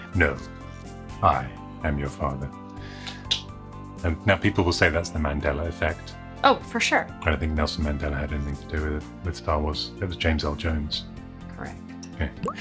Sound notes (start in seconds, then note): 3.0 clicks tongue